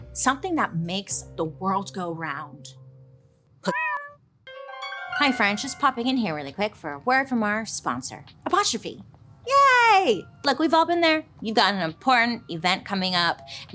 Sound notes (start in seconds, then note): 3.7 cat meows; 4.4 mysterious music